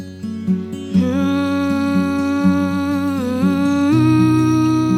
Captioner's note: gentle humming